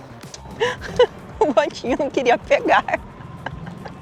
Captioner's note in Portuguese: risadas